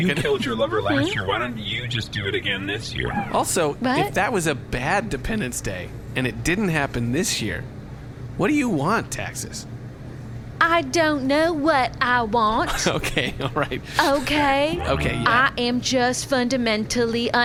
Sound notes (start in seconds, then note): 10.7 mocking